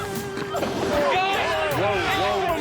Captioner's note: shouting